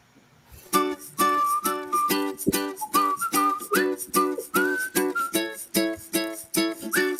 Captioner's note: artist whistling; upbeat music